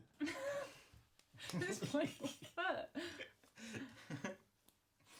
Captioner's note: Jessica chuckling